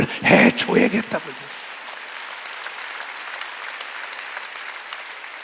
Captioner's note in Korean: 박수